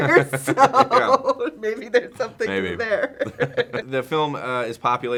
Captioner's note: laughs